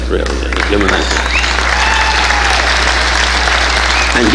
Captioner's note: audience applauding